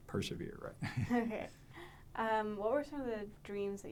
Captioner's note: laughs